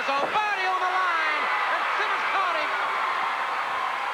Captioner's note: crowd cheering